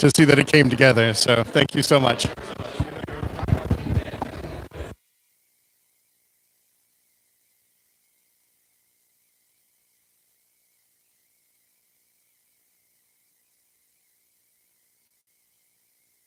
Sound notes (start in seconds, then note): 5.4 no audio